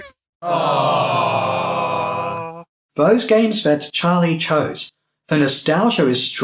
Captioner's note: awwwww